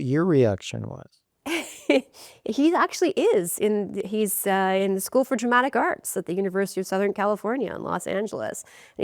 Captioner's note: rires